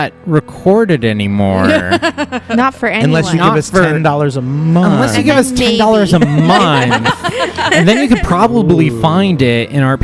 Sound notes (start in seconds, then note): 1.6 laughs; 6.0 laughter